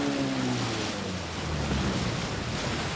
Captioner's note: none